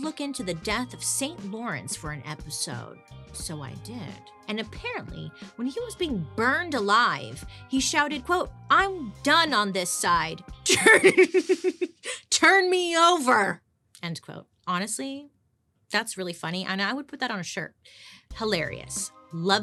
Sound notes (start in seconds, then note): 10.8 laughing